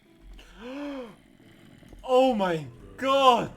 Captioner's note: gasping